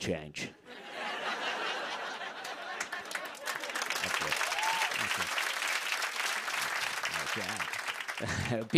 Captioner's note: laughter and applause